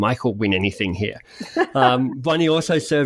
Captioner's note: laughs